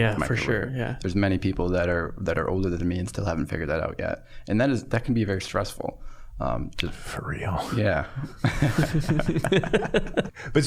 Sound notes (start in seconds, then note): 7.1 whispering; 8.2 all laughing